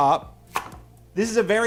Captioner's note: knife banging